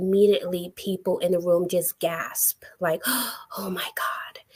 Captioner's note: gasps